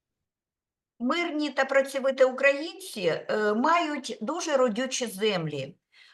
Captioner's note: speaking Ukrainian